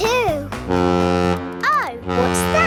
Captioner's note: horn bellowing